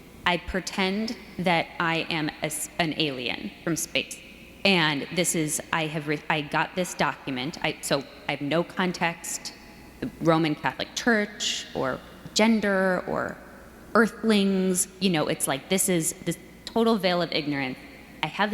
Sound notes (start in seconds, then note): none